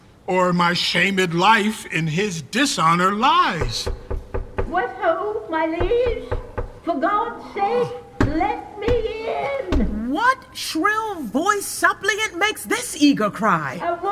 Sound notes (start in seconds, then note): 3.6 knocking at door; 8.2 banging on door